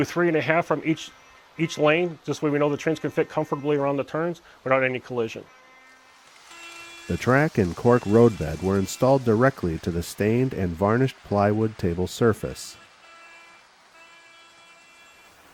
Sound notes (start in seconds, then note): 7.4 voiceover